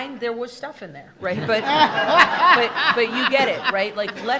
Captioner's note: attendees laughing